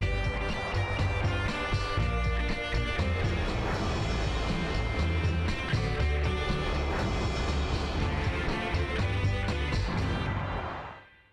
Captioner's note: cheering